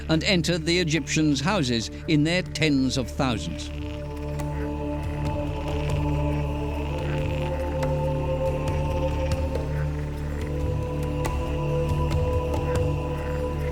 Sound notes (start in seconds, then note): 4.2 frogs croaking; 10.3 men chanting; 10.5 soft drumming